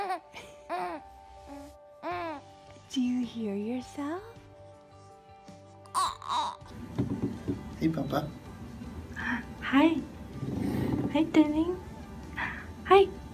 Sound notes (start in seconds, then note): 0.6 baby laughing; 5.9 baby babbling